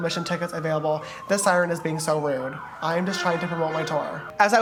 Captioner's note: police siren